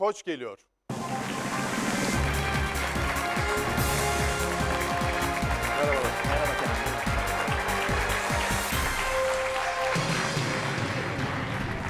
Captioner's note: applause